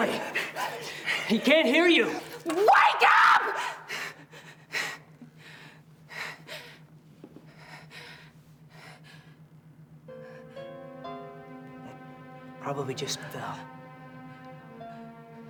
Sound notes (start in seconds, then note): 7.2 breathes heavily; 12.5 somber piano music